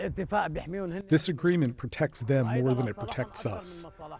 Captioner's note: through translator